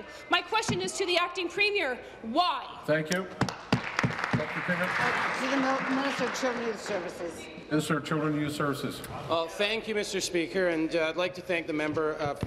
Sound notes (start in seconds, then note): 6.3 applause